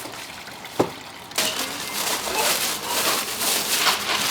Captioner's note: loud clatters